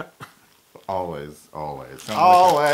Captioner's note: laugh